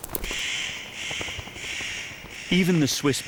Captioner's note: bird calls